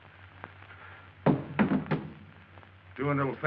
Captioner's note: gun thudding